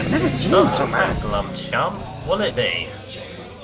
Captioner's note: awful Voice